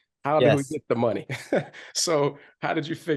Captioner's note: laughs